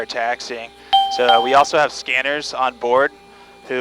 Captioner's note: bell dinging